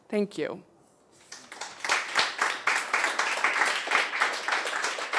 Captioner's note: crowd claps